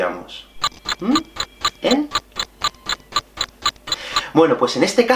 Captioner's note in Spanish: Tic tac tic tac